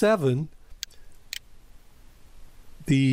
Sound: PowerPoint click

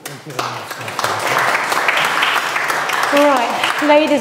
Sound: crowd applauding

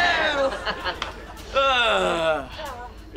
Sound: laughing; groaning

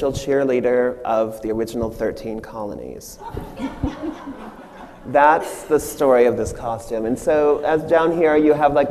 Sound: audience laughs

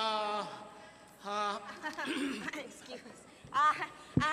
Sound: chuckles

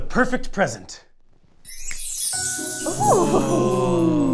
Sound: sparkly chime

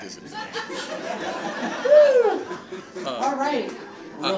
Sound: audience laughing

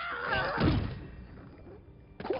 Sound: thud

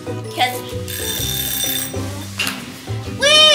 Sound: alarm sounds

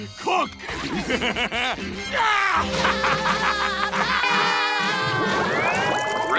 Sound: cackling

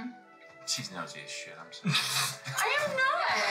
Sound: Val laughs

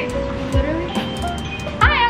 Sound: bell dings

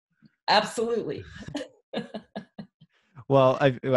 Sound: laughs

